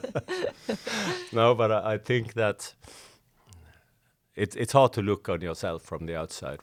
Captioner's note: laughing